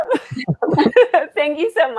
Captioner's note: group laughing